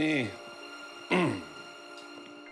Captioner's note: clears throat